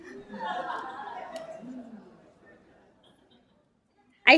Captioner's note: laughter